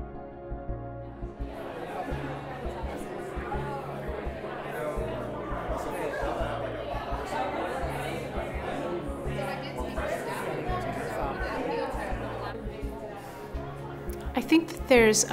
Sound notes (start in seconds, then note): 1.5 background chatter